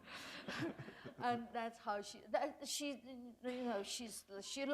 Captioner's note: laughter